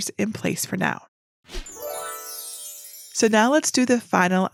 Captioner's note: twinkling chime